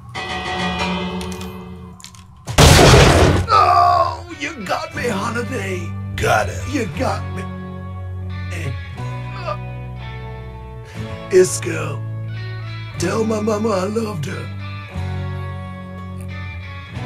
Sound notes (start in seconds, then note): 0.1 bell chimes; 2.5 Doc's gun shoots